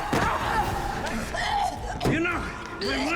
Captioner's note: gagging